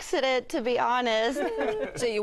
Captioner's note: laughter